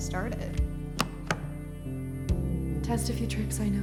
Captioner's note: door handle clacks